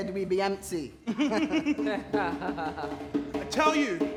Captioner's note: they laugh